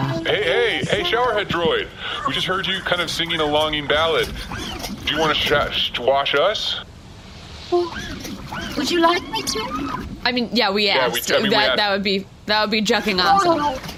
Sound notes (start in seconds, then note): 7.7 shyly; 11.2 laughs